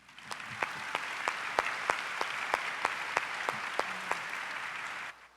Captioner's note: audience applause